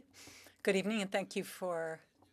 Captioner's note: speaking French